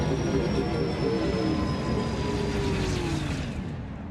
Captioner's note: machine whines